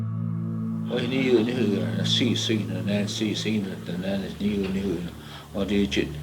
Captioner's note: speaking foreign language